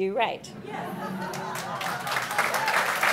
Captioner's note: laughs, clapping